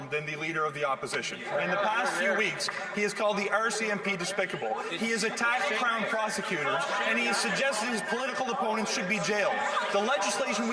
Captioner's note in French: voix de l'interprète